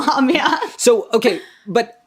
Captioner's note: laughs